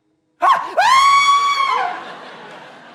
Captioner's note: shrieks